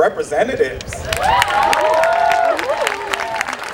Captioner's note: cheering